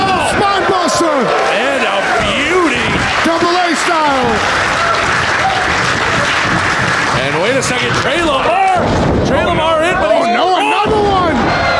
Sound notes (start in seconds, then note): 5.3 audience applauding